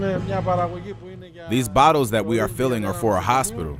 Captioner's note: speaking Greek